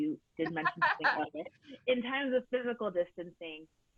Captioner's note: laughing